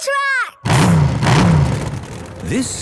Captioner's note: engines revving